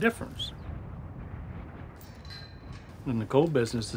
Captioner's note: wind hissing